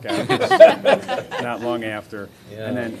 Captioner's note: laughter